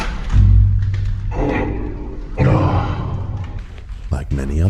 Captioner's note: grunts